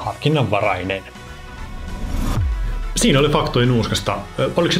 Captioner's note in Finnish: siirtymä-äänitehoste